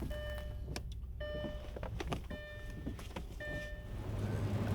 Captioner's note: car beeping